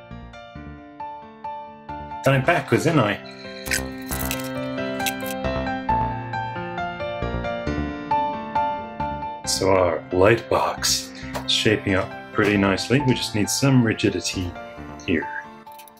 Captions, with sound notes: (Cockney accent) Done it backwards ain't I? So our lightbox is shaping up pretty nicely We just need some rigidity here